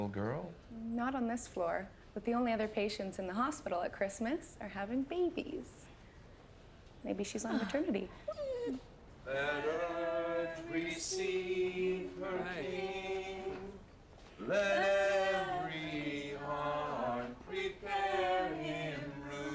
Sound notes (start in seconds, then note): 7.4 pooch whining